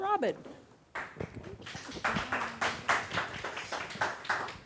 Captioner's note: audience clapping